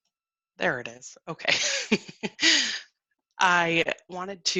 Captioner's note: laughs